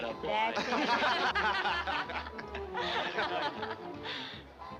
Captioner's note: people laughing